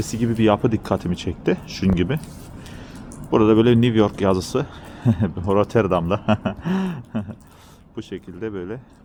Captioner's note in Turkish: kahkaha